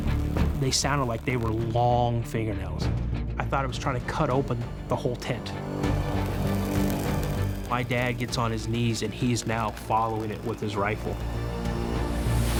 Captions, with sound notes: They sounded like they were long fingernails. I thought it was trying to cut open the whole tent. [scratching] My dad gets on his knees and he's now following it with his rifle.